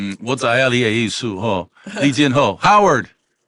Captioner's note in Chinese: 台語